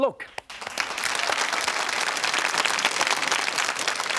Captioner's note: audience applauding